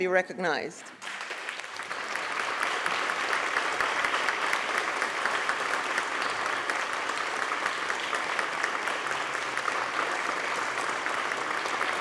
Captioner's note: applause